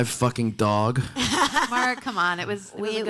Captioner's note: panelists laughing